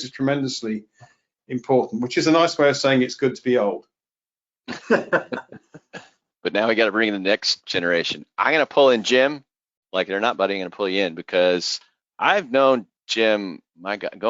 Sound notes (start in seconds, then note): 4.6 laughter